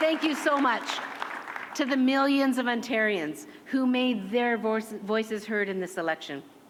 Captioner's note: cheers and applause